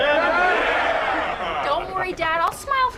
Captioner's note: cheering